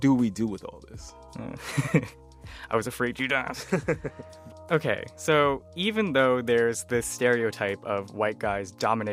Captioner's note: laughter